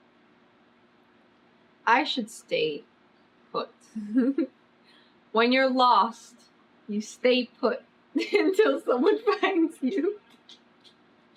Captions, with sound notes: I SHOULD STAY PUT WHEN YOU'RE LOST YOU STAY PUT [LAUGHS] UNTIL SOMEONE FINDS YOU